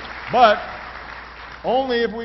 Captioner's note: applause